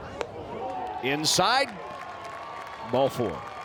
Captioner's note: fans cheer